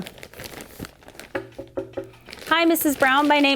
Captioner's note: knocking